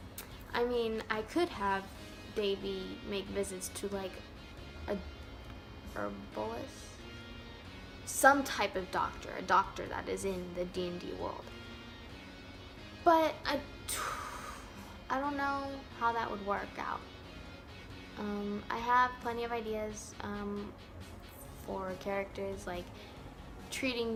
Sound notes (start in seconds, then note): 14.1 breathes